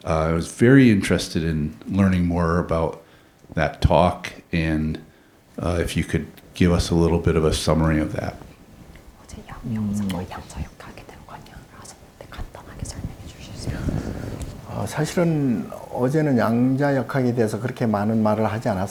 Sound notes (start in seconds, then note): 9.7 interpreter whispering Korean; 15.2 speaking Korean